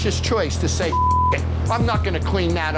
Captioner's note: beep